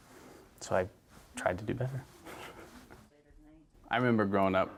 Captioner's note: chuckles